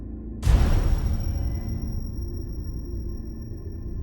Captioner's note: gun bangs